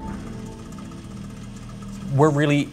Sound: machinery rattling

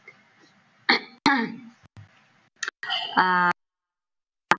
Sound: clears throat

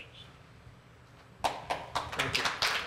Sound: applause

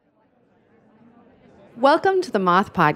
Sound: crowd murmuring

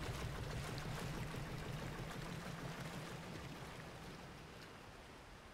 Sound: boat noises

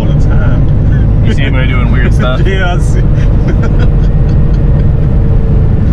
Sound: laughter

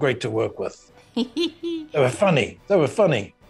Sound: Ming-Na giggles

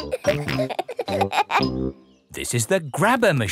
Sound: peppa and george laughing

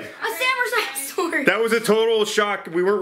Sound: mumbles

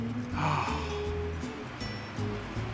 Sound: sighs

